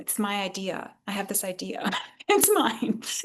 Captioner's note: laughs